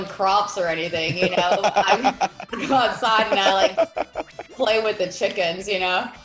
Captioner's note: laugh